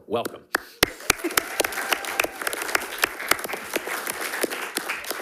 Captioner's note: attendees clapping